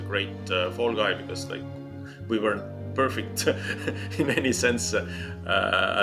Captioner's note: chuckles